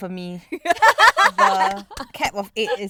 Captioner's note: girls laughing